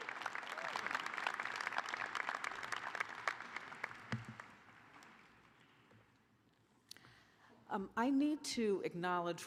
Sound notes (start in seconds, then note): 0.0 applause